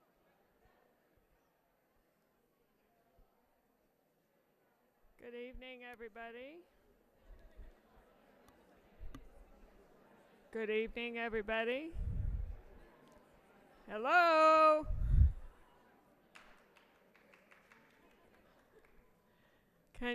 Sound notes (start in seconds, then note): 7.0 audience chattering; 16.3 audience applauds